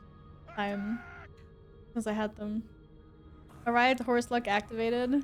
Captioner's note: bzzz